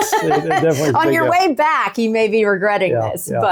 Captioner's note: laughing